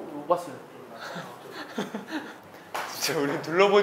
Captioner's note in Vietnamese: Cười